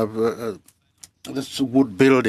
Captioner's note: speaking french